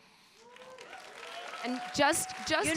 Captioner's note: audience applauding and cheering